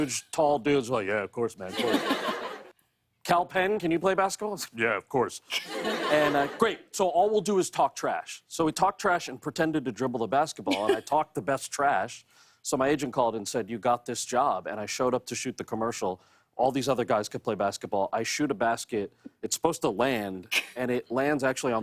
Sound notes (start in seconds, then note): 0.0 deep voice; 2.2 normal voice; 4.0 deep voice; 4.9 normal voice